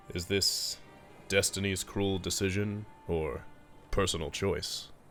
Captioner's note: none